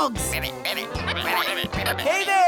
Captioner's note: croaking